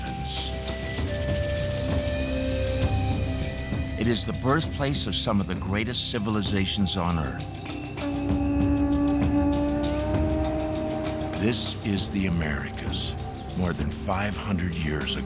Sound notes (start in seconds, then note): 8.0 conch horn trumpets